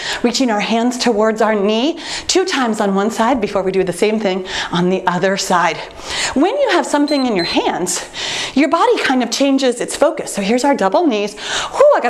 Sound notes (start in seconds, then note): 7.0 timer beeps